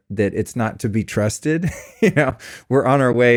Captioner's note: laughs